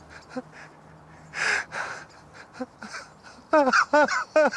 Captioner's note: whimpers